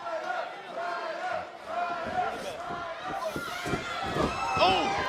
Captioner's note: fans chanting